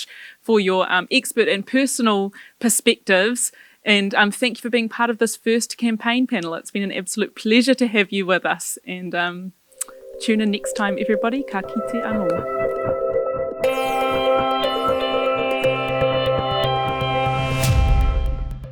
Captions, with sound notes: for your expert and personal perspectives, and thank you for being part of this first campaign panel. It's been an absolute pleasure to have you with us, and tune in next time everybody. (speaking foreign language) (uplifting music)